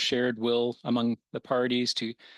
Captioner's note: speaking French